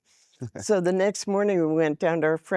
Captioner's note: laughing